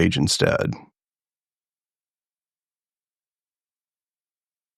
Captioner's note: blank Audio